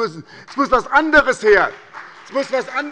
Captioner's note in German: Beifall bei der SPD